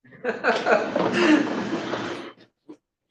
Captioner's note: laughter